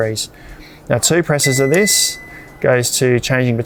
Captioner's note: fridge beeps